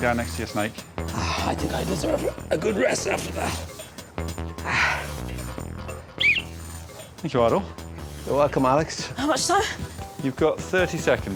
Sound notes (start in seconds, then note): 2.0 sighs; 6.2 whistle blows